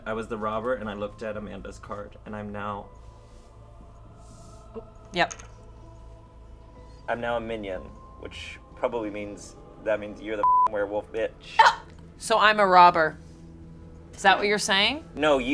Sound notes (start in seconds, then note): 10.4 beep